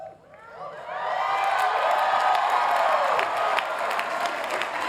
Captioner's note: cheering